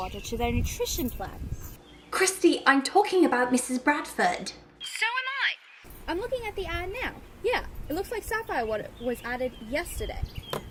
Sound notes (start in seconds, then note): none